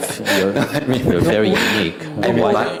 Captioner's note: questioner Laughter